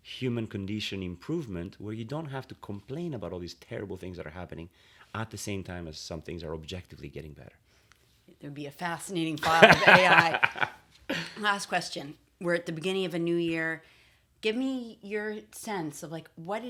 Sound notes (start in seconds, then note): 9.4 laughter